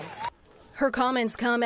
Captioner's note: applause